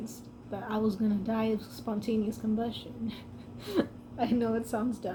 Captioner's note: laughs